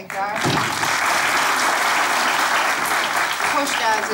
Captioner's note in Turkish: Alkış sesleri